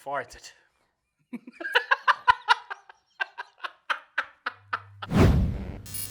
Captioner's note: laughs